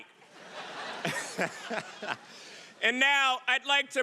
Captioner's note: audience laughing